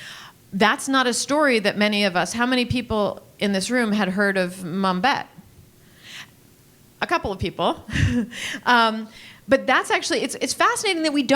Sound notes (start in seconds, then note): 7.9 laughs